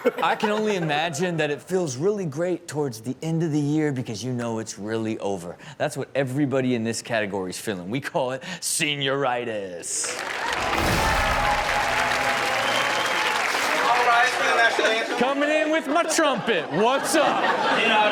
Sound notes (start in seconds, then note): 10.0 audience cheering and clapping